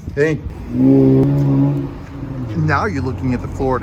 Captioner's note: motor engine roaring